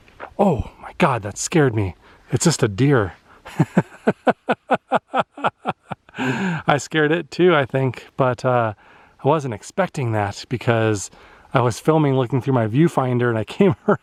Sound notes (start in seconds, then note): 3.4 laughter